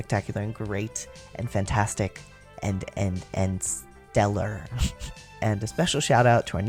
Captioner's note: laugh